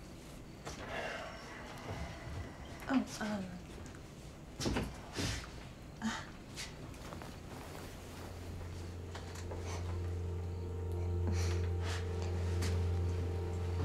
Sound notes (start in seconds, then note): 0.9 Tyler sighs; 5.9 Claire laughs; 8.4 gentle music; 11.2 Claire laughs; 11.5 crickets chirping; 11.5 tense music; 13.6 footsteps approaching; 13.6 tense music